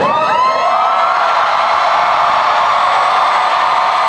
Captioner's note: cheering